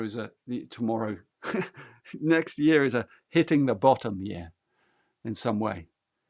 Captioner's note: laughs